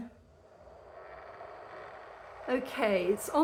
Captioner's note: fan whirring